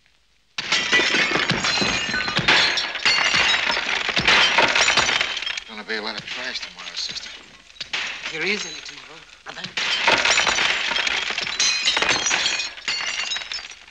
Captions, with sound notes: There's gonna be a lot of trash tomorrow, sister. If there is any tomorrow, brother. (GLASS BREAKING)